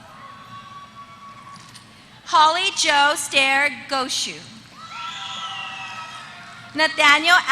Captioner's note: applause